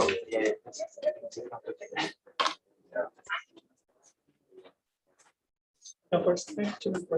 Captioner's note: background chatter